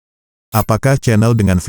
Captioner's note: robot Voice